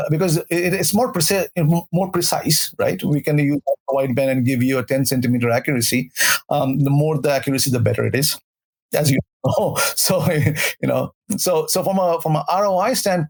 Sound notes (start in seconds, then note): 10.3 chuckles